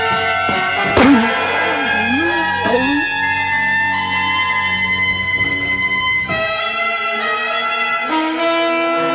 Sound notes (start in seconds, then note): 2.0 ghoul groaning